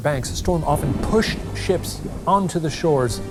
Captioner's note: screen whooshing; thunder rumbling